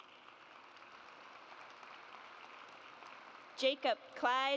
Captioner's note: audience applauds